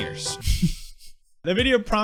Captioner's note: laughs